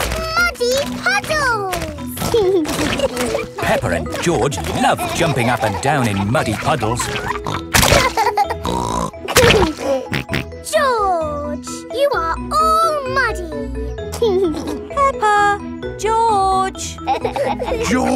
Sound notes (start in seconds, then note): 7.9 laughs and snorts; 14.2 giggling